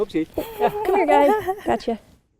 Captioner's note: laughter